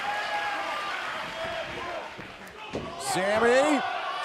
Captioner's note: cheers & applause